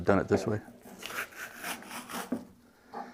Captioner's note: scratching